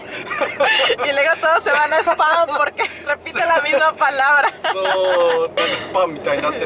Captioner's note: laughs; laughs